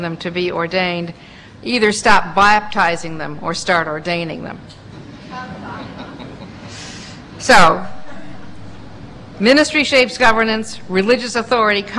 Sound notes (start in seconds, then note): 5.6 laughter